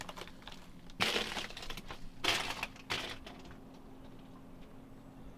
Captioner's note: ice crunching